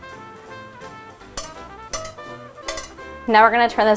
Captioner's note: popcorn kernels clanging